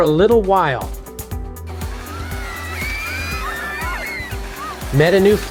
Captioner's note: sounds of sledding and screams of excitement